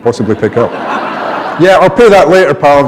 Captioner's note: laughter